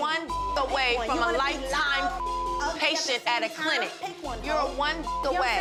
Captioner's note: beep; beep